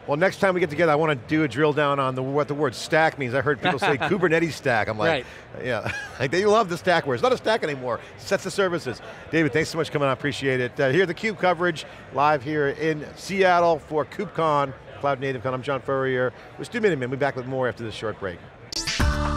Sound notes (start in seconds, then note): 3.6 laughing